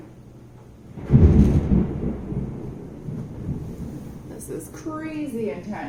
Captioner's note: thunder